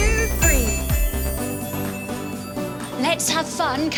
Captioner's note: magical chime